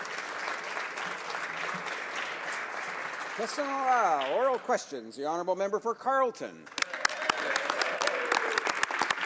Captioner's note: applause